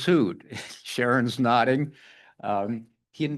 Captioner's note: laughs